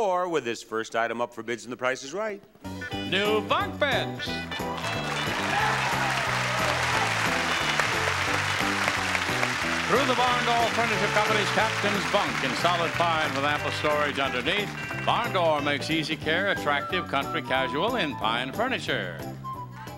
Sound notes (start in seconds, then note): 5.4 audience clapping